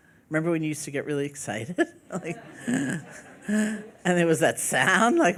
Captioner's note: laughing